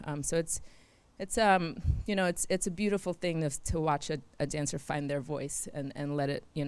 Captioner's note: none